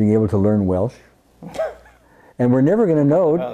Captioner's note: laughs